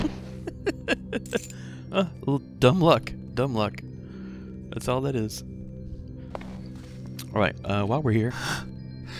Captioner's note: laughs